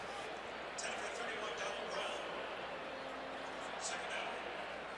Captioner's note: pa announcement